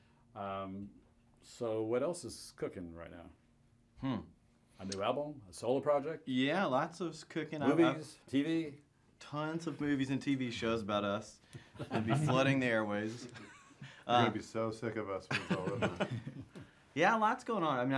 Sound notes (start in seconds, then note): 11.8 laughs; 15.3 laughs